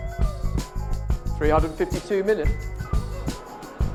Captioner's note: more laughter